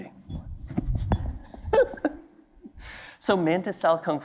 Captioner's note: laughing